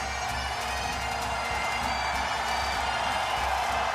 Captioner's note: crowd cheering